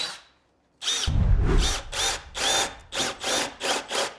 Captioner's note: air whooshes